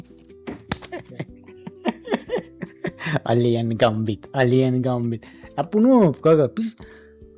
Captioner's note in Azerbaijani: gülüş